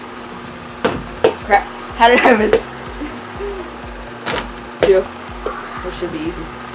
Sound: laughs

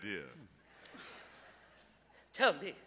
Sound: audience laughs

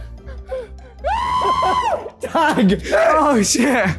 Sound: screams

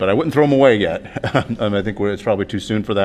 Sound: laughter

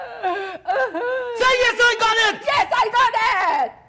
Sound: Sharik loudly crying

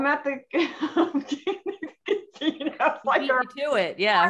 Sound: laughing

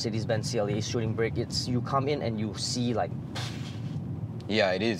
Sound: pffffffft

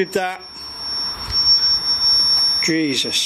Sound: feedback squeals

